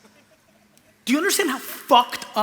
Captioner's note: laughter